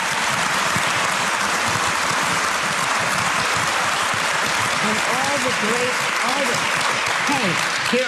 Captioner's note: applause